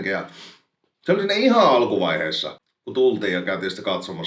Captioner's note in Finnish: niiskauttaa